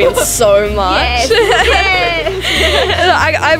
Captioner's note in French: rire